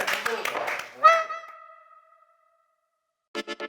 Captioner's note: Chattering wih Nah